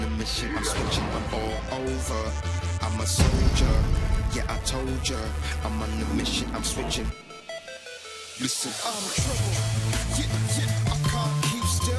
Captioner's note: bell ringing